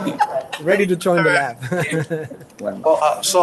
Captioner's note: audience laughs; laughs